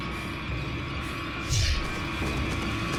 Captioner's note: air whooshes